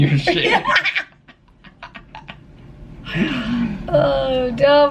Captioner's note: laughter